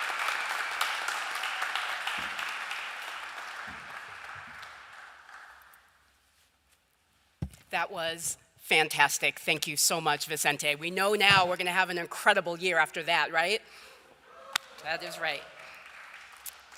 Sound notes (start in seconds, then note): 5.3 applause